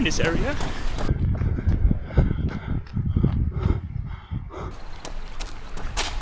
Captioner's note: wind blowing